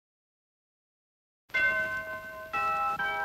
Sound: church bells tolling

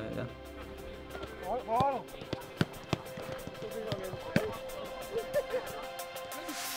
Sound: bright music; players chatting

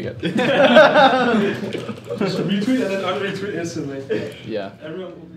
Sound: all laughing

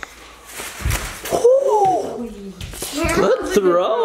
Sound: gasp

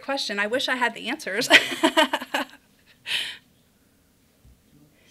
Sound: laughter

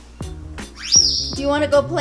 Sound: bird squeaks

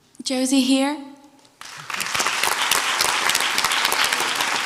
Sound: crowd applauds

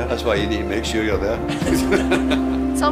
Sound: laughter

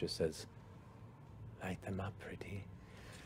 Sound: whispers

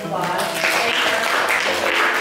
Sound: applause

